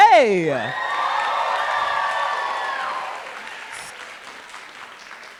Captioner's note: cheering and applause